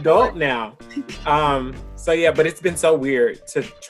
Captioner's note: laughs; chuckles